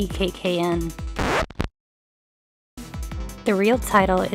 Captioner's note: record Scratch